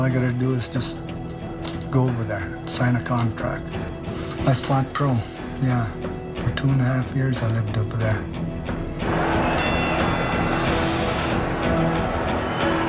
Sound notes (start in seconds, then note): 9.0 crowd cheering